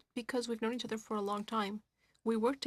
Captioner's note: speaking French